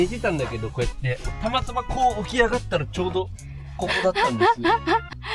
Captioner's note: laughs